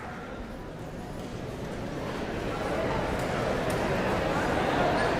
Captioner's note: audience chattering